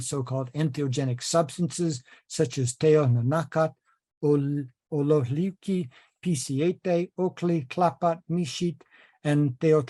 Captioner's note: speaking nahuatl